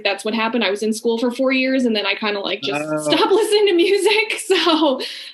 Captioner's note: laughing